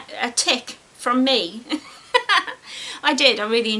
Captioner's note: giggles